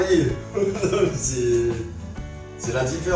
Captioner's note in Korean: 웃음